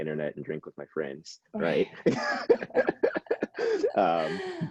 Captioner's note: laughing